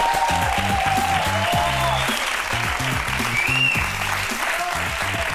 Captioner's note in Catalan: aplaudiments